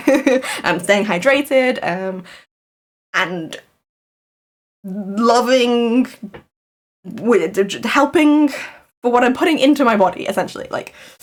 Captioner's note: laughs